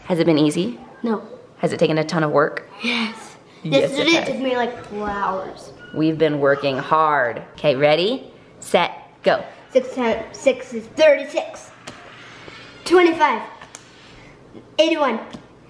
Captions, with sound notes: - Has it been easy? - No. - Has it taken a ton of work? (sigh) - Yes. Yesterday, it took me like four hours. - We've been working hard. 'Kay, ready, Set, go! - Okay, six times six is thirty six. Twenty five. Eighty One.